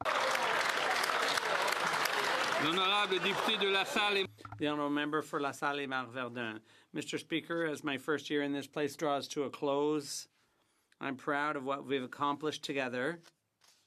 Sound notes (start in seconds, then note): 3.5 some Applause